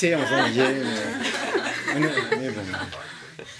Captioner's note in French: rires